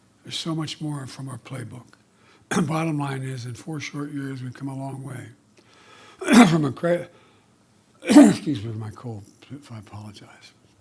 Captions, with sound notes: There’s so much more from our playbook. The bottom line is, in four short years, we’ve come a long way from a cri- -- (coughs) -- excuse me, my cold -- I apologize --